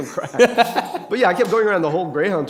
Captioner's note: laughter